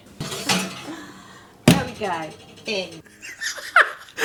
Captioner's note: oven door thuds